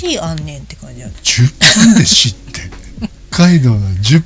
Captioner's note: laughs